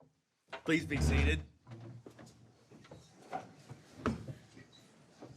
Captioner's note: chair clanking